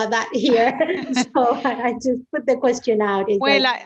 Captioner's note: laughs